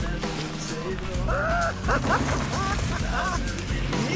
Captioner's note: Baratunde laughing